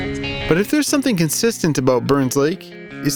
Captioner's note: none